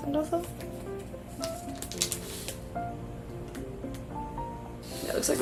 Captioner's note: none